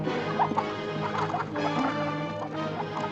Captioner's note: chickens clucking